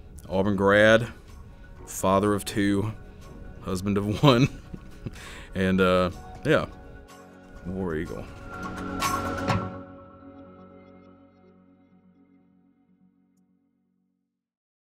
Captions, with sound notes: Auburn grad, father of two. Husband of one. (laughing) And yeah. War Eagle.